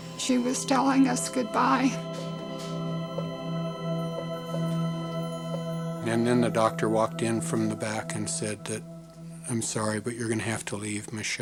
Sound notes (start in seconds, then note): 2.4 heart rate monitor beeps